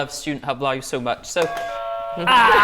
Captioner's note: buzzer